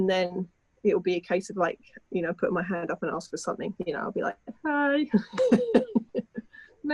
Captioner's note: chuckling